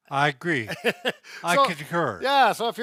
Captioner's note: laughing